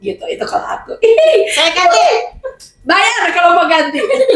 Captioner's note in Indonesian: berteriak; tertawa